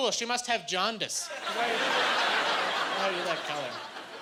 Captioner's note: laughing